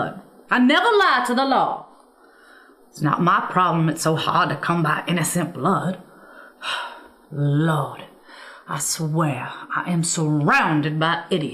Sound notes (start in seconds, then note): 6.2 exasperated sigh